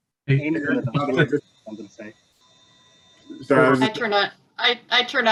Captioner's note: indistinct chatter